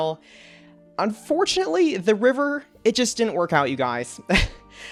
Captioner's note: chuckles